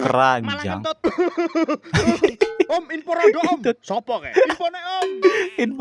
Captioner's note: laughter